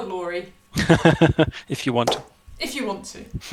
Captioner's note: laughs